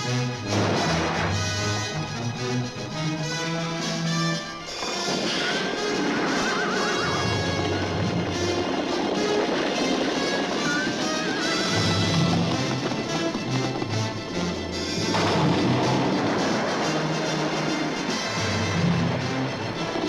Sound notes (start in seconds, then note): 0.5 vase crashes; 6.2 horse whinnies; 14.8 vase crashes